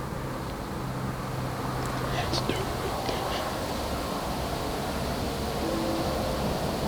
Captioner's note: sound of light wind, whispered voices